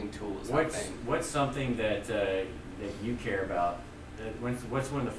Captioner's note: voiceover